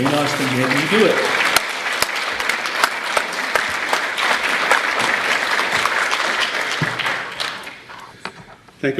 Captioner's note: applause